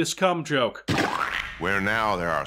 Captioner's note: splat sound